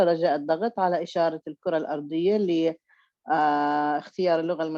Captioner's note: speaking Arabic